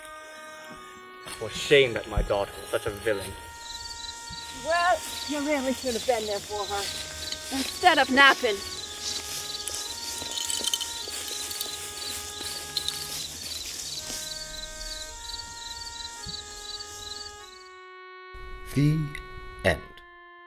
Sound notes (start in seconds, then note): 9.2 footsteps